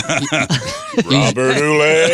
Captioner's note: laughing